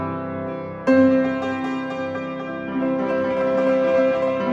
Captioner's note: none